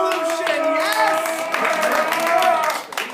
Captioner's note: applause